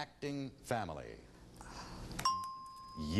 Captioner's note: ding